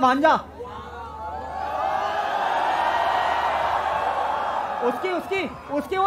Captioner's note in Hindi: चियरिंग